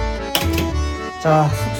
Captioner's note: click!